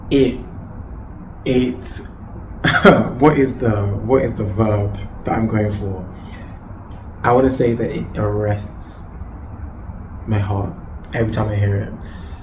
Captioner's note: laughs